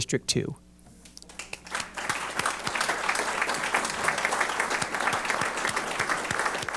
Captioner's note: applause